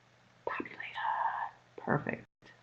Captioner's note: whispering